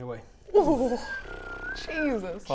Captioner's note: pffffff